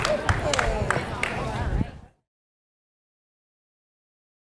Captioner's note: audience cheering and applauding; audience chattering